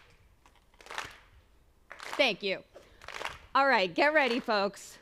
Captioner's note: clapping